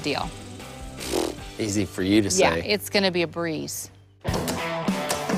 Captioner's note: sputters